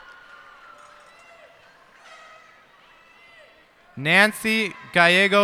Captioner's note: cheers and applause